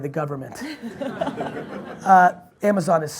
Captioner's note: audience laughs